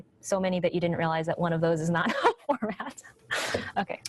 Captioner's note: laughs